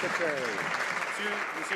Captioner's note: some Applause